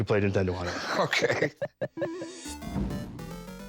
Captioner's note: video game beeping